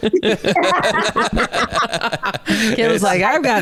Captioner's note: all laughing